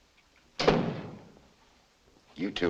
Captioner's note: door slams